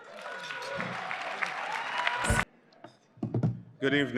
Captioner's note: applause